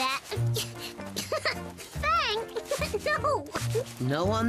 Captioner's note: giggles